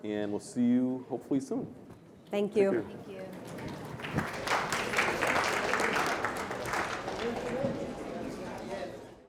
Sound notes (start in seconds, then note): 3.2 applause